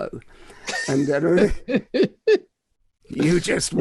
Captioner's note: laughing